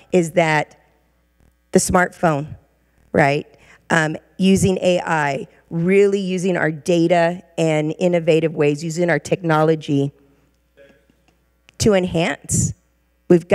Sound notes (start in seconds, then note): 10.6 regent speaking faintly